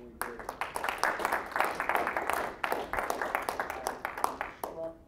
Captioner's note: applause